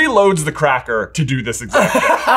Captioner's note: laughing